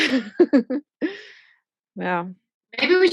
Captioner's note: laughing